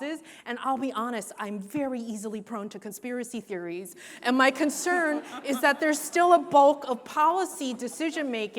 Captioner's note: laughs